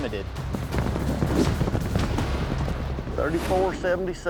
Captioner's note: hoofbeats